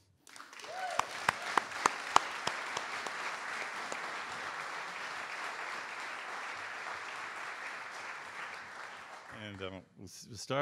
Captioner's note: audience Applause